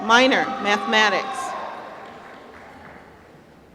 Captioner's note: applause